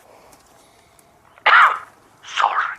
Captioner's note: cough